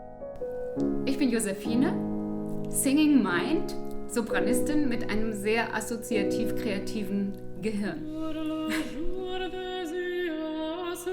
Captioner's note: laughter